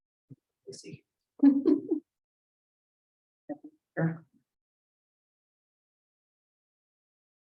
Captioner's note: person chuckling